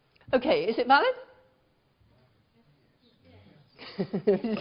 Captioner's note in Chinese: 無聲